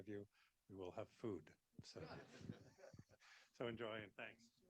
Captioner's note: audience laughing